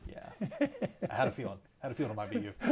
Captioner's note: laughs